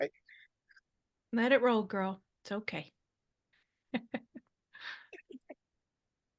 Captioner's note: laughs